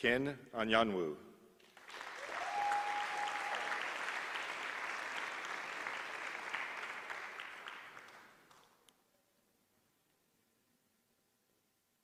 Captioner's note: applause